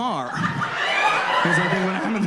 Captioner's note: audience laughed